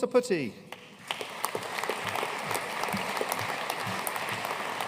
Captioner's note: audience applauding